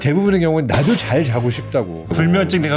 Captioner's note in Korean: 강조되는 효과음